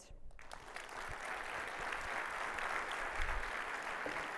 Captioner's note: audience applauding